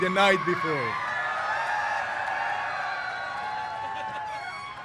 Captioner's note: cheers